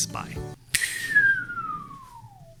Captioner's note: whistling